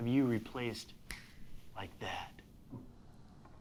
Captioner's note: fingers snap